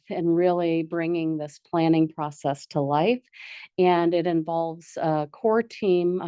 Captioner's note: none